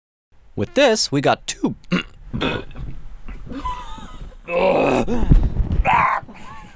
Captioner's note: chokes